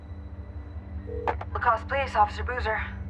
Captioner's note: phone ringing